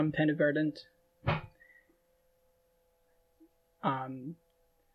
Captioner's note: thump in background